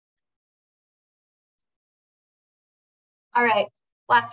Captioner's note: silence